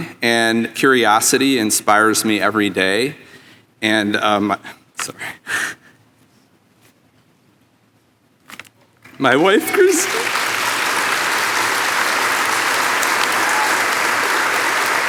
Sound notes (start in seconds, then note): 10.7 audience applauding